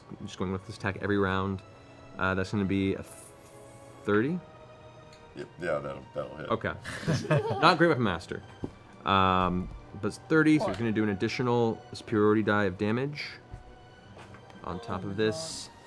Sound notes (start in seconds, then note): 6.8 laughter